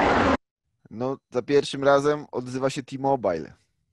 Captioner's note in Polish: głośny szum